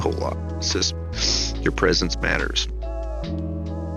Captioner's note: sniffles